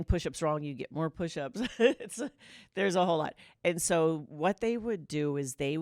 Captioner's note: laughter